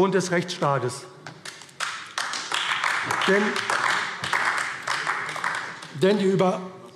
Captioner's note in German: Beifall AfD